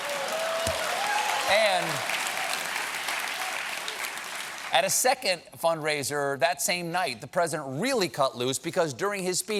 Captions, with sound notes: TAKE THAT, MY BODY. ( CHEERS AND APPLAUSE ) AT A SECOND FUNDRAISER THAT NIGHT, THE PRESIDENT REALLY CUT LOOSE, BECAUSE, DURING HIS